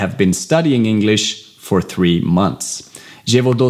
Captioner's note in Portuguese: Inglês